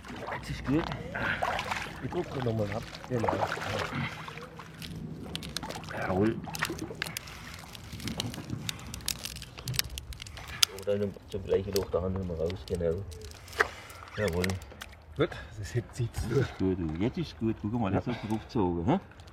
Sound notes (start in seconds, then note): 7.7 crackling